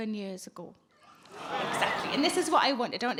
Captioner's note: audience gasp